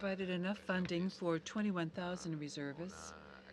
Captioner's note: speaking French